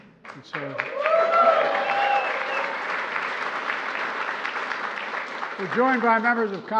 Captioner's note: laughter and applause